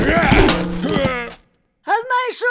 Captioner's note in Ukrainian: Крик